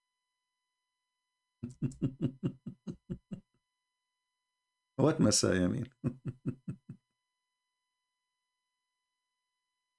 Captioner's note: Ketawa